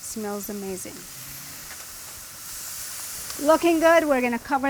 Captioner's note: grill sizzling